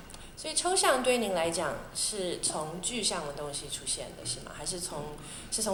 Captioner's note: Mandarin